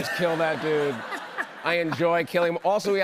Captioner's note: laughter